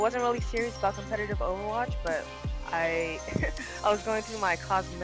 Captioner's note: laughs